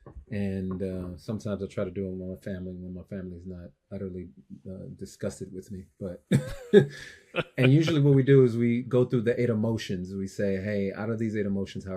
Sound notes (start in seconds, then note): 6.2 both laughing